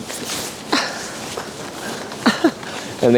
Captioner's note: giggling